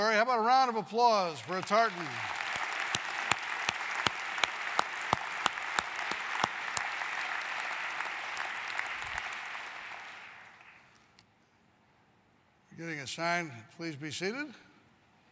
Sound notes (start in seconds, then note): 1.3 applause